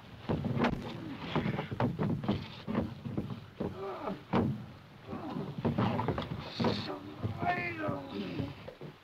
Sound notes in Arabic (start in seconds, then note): 0.8 تأوه